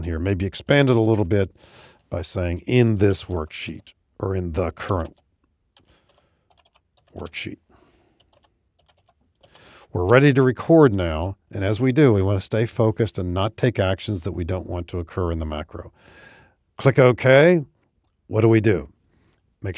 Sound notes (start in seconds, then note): 8.7 keyboard typing